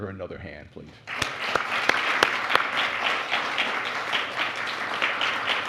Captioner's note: applause